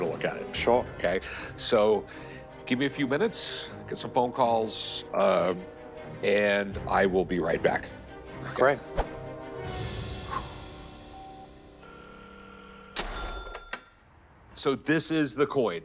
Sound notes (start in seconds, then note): 10.2 exhales; 11.8 line rings